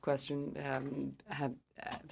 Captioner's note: speaking French